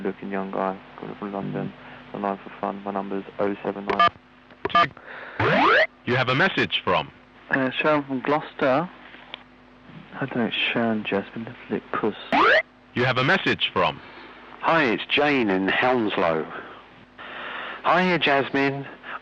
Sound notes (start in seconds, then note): 10.6 voice muffled